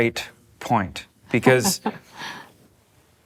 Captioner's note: laughs